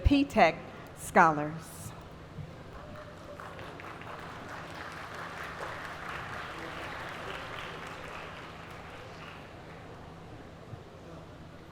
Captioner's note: applause